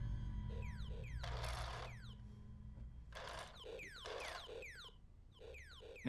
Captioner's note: toy laser gun firing